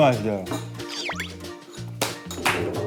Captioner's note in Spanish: Saboreo